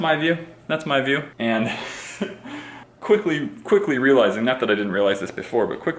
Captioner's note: laughs